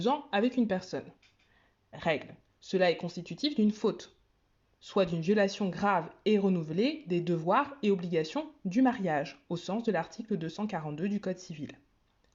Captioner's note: french